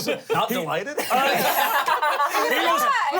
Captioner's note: everyone laughs